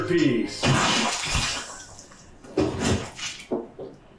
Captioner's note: paint splashes